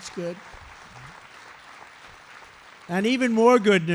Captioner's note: applause